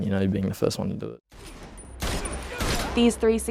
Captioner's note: gunshots banging